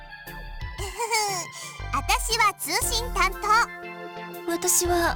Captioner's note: chuckle